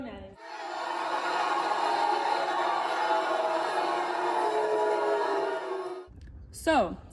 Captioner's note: booing